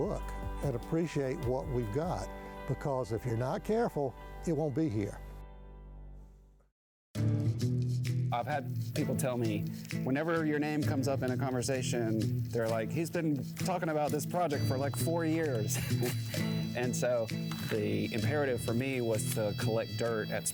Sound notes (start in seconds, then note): 7.3 upbeat music; 15.5 laughs